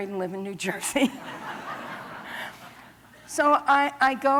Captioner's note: laughter